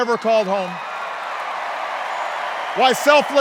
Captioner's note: cheers and applause